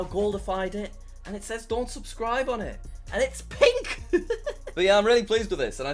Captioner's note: laughs